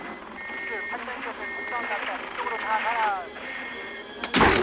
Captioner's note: beeping